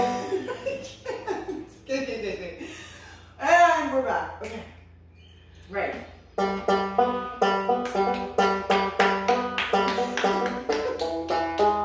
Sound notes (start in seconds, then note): 0.0 plucks banjo; 0.0 laughter; 8.7 claps; 9.7 laughter